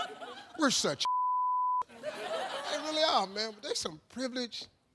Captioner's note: beep